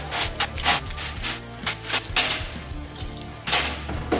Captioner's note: metal clangs; knocking